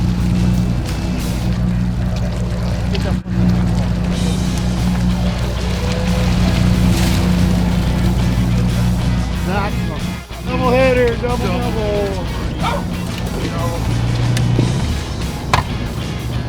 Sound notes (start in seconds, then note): 12.2 dog barks